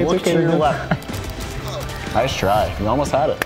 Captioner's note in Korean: 웃음